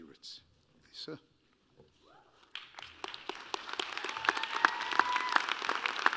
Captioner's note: applause